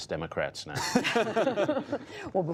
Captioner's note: laughter